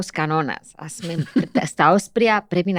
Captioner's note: he laughs